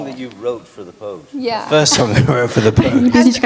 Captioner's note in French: rires